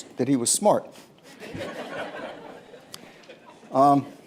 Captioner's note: laughter